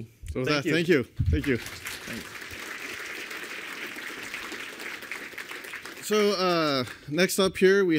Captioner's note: applause